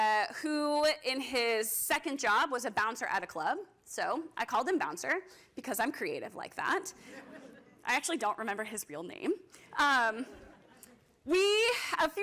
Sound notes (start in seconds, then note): 7.0 laughter; 10.2 laughter